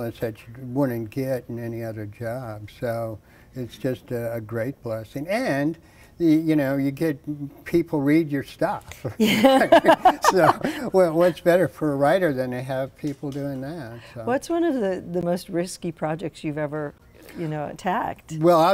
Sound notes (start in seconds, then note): 8.9 both laughing